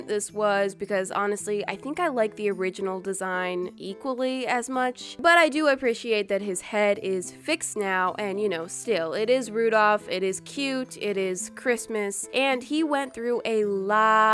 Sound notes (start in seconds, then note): none